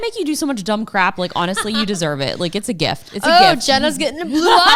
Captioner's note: laughs